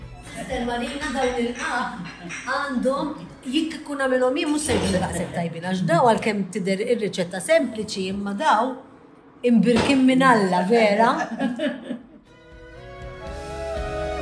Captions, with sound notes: Sr Marina, these qagħaq are something else. I would never make them this good, despite the simple recipe, because these are blessed by God himself! [laughter]